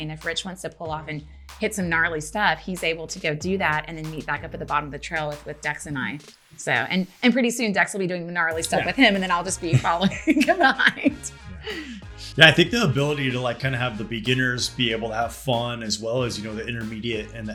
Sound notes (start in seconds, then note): 9.6 laughter